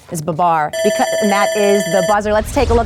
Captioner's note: alarm buzzer rings